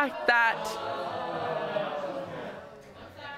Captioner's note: audience exclaiming